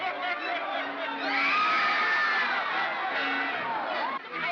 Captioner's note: commotion; screaming & commotion